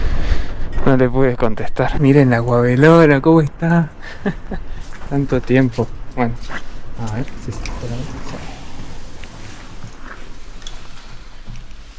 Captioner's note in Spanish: risas